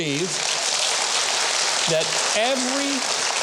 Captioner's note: audience applauds